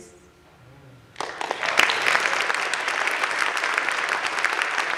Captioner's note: audience claps